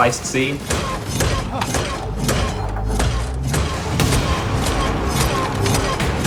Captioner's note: intense music; Gump thumping